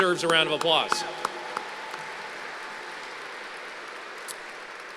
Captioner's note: applause